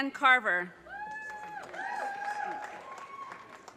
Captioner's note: audience cheers and applause